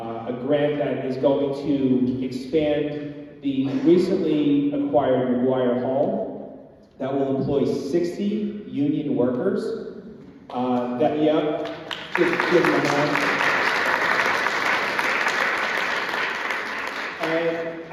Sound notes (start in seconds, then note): 11.6 applause